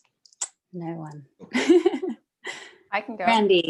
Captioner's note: laughter